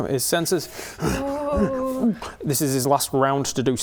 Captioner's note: huffs and puffs